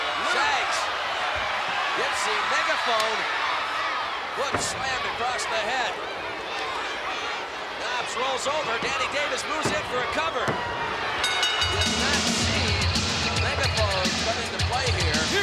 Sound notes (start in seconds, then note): 0.0 crowd clamoring; 4.2 body thudding; 4.4 megaphone thudding; 7.8 hands thudding; 9.1 bell ringing